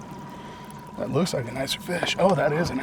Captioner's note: reel spinning